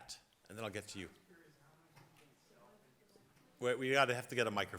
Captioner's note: speaking faintly